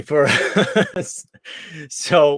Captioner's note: laughs